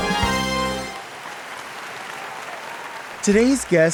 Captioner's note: audience clapping